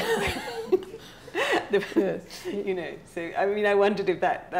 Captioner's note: laughing